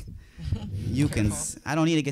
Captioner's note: audience laughing